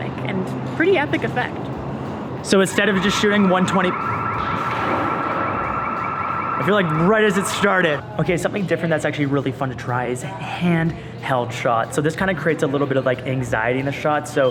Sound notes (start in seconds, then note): 2.5 siren blaring